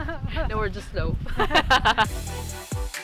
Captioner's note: laughs